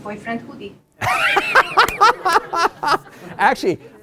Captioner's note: laughter